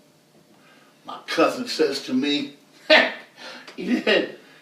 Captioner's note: laughs